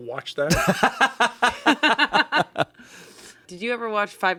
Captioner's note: everyone laughs